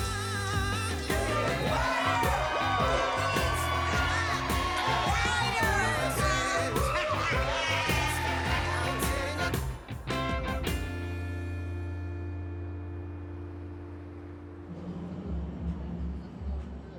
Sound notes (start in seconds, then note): 2.1 cheering; 6.4 laughs